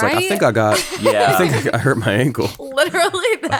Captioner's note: chuckles